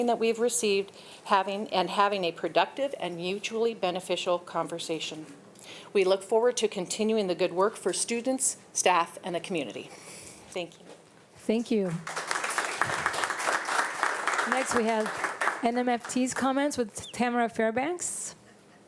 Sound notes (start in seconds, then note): 12.0 audience applauding